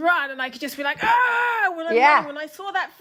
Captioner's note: screams